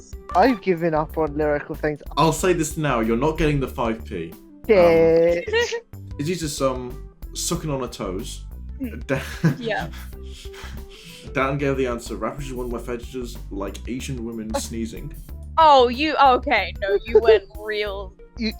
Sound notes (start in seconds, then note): 9.0 laughter